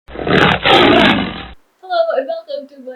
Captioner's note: tiger roars